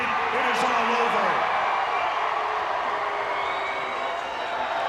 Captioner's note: audience cheers